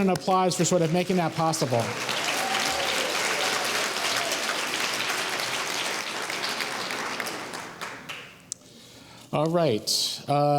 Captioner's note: applause